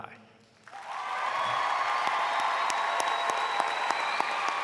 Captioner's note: audience applauding